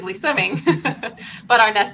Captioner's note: laughing